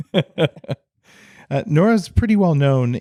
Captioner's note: laughs